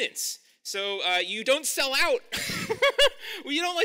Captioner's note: laughs